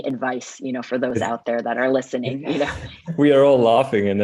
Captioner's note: chuckling